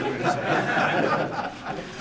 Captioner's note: laughter